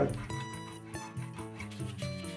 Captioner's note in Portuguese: raspando; lixando